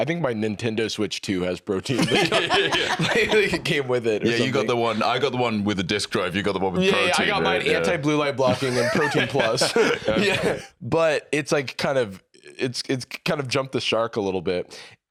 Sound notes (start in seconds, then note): 1.9 laugh